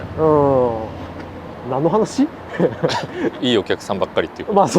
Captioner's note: laughs